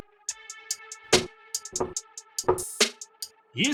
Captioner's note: a knock on the door